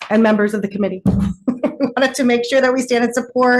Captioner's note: chuckling